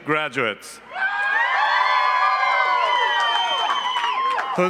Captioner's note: cheering